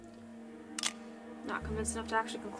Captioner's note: shutter clicks